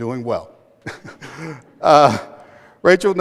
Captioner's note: chuckles